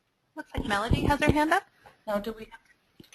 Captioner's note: voiceover